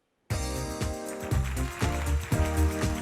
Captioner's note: applause